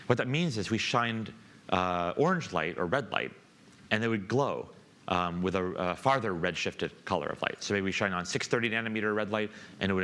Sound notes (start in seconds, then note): none